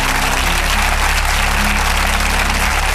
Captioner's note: applause